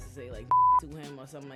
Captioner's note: beep